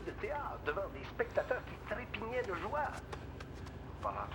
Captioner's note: radio